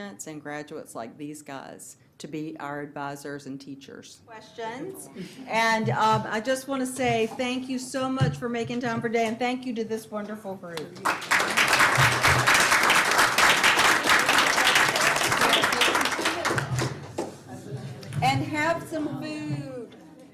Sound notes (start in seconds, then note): 11.0 audience applauding